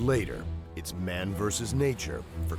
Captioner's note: voiceover